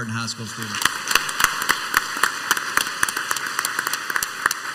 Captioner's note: crowd applauds